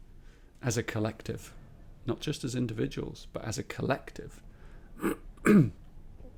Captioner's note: clears his throat